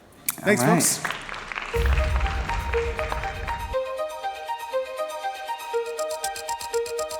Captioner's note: audience applauding